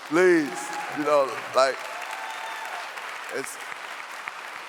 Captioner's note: clapping